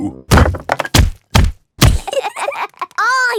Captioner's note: banging